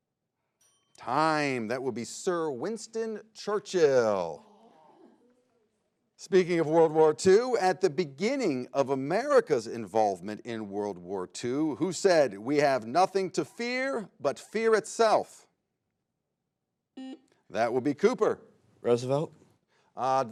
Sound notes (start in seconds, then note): 0.6 bell rings; 17.2 buzzer beeps